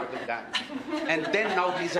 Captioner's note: laughter